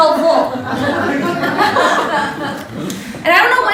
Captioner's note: laughter